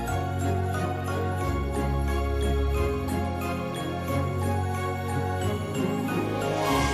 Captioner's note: jingling continues